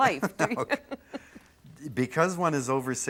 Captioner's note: laughter